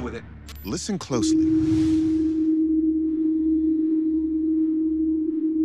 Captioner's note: humming